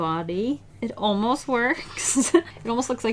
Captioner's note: laughs